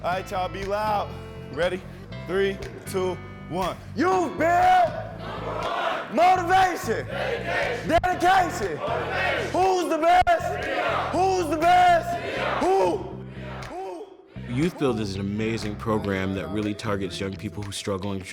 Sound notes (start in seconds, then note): 3.8 leading group chant